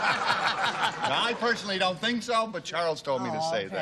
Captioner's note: laughter